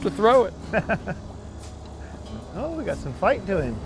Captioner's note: laughing